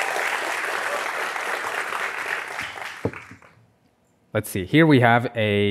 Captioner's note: applause